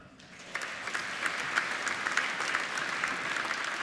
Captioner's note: applauding